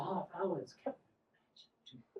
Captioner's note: off-mic